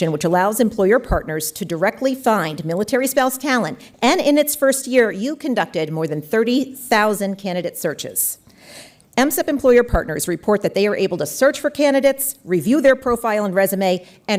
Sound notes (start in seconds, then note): none